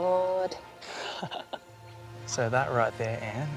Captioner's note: laughs